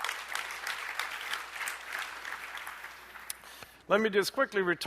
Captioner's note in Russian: аплодисменты